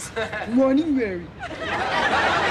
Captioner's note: low voice